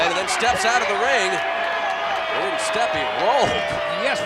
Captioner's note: laugh